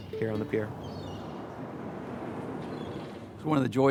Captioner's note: seagulls calling